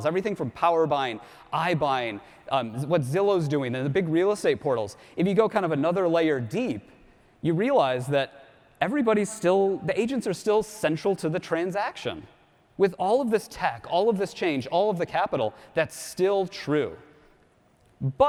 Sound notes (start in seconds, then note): none